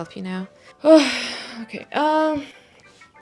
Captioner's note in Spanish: suspira profundamente